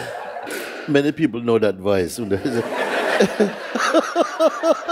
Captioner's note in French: rires; le fou rire continue